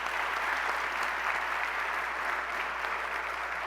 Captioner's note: applause